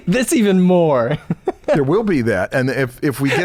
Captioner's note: chuckles